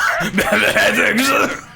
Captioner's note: laughs